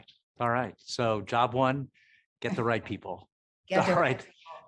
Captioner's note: laughing